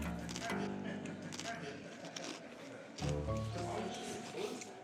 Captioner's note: chewing crackers